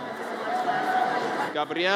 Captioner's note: audience cheers